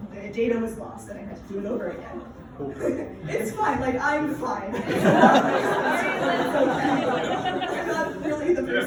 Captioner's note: laughter